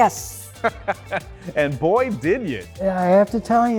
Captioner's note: chuckling